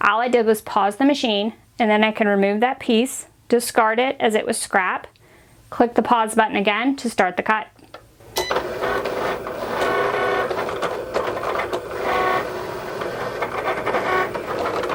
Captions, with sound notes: All I did was pause the machine, and then I can remove that piece, discard it as it was scrap, click the Pause button again to start the cut. (Cricut beeping) (Cricut whirring)